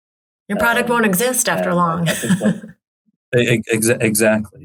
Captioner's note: chuckles